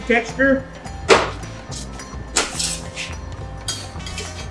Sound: metal clanking

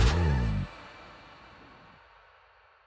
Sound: music stops

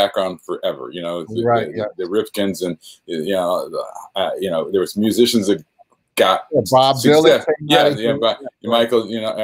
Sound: phone rings

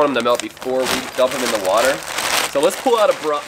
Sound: zipper zinging; bags crunching

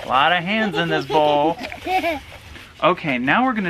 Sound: laughs

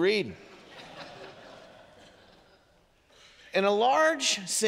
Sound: congregation laughing

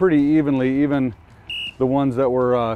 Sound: whistling sounding

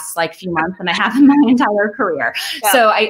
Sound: laughs

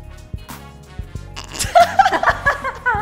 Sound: cute and adorable chuckle

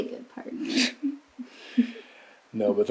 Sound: chuckling

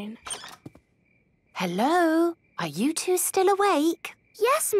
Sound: whisper

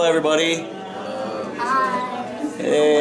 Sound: multiple hellos

